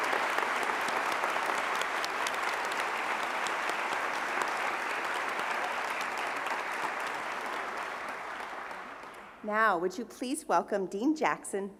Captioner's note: applause